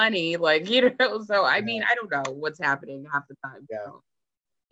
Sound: laughs

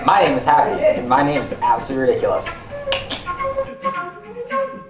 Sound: clicks teeth

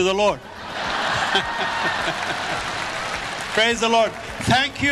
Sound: audience laughs

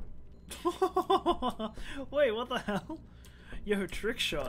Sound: laughing

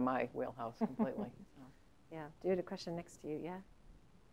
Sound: laugh

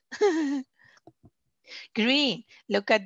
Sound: laughs

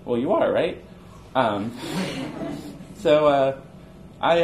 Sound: audience chuckles

